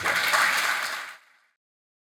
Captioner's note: audience clapping